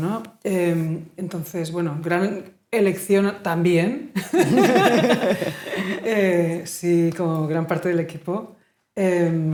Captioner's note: laughing